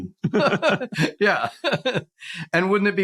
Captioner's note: laughs